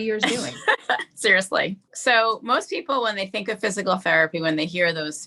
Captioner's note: laughs